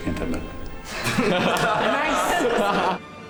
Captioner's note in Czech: Smích